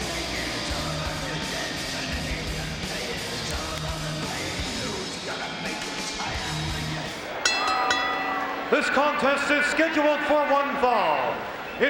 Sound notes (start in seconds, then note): 0.0 energetic rock music continues; 7.3 bell rings